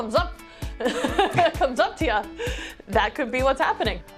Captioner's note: laughs